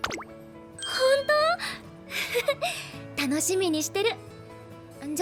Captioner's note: laugh